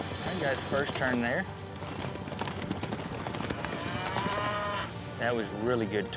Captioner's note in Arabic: ضربات حوافر، خوار